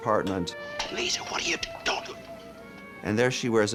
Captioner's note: whispering